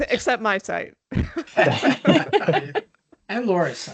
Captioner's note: laughter